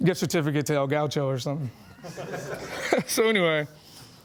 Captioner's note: laughing